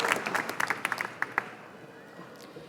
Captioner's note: applause